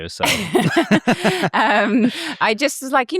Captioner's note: both laugh